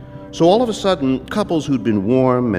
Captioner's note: none